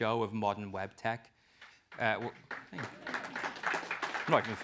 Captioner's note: applause